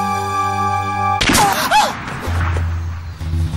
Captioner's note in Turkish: Bağırıyor; Silah sesi